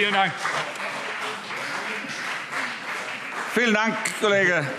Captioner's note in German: Beifall CDU und BÜNDNIS 90/DIE GRÜNEN